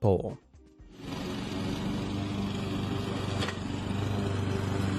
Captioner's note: lawnmower whirring